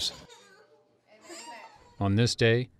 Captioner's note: laughing